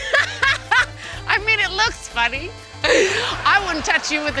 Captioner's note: laughs; laughs